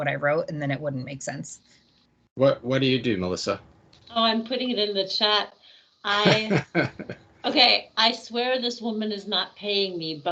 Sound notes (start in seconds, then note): 6.1 laughing